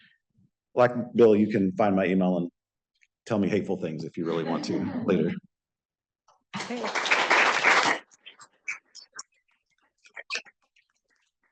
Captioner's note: applause